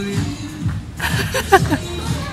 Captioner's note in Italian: risata